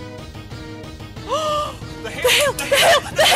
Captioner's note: gasp